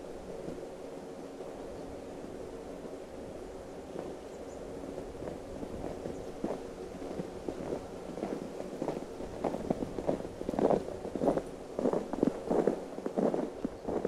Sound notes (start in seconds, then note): 7.0 feet crunching on snow